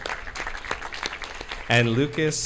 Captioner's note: audience clapping